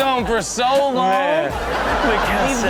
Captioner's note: crowd laughing